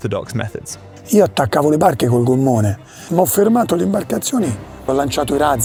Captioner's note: speaking Italian